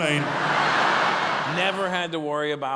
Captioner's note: audience laughing